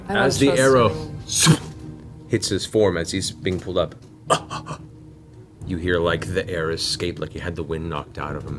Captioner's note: gasps